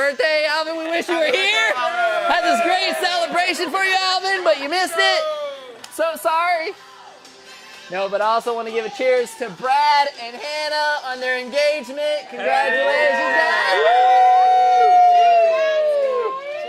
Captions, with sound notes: Alvin, we wish you were here. Had this great celebration for you, Alvin, but you missed it. So sorry. No, but I also wanna give a cheers to Brad and Hannah on their engagement. Congratulations, guys. (cheering)